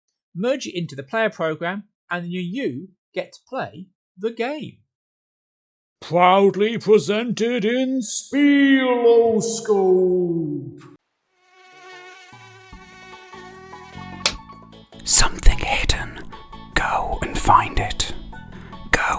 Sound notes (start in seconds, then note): 11.2 mosquito; 14.7 offscreen whispering